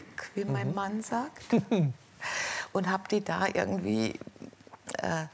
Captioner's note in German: kichert